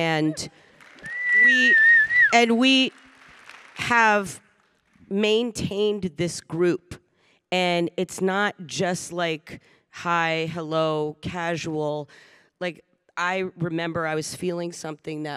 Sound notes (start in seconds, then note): 0.9 Samantha whistling